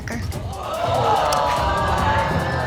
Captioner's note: audience exclaiming